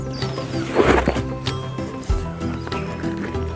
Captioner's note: 段ボールのざわめき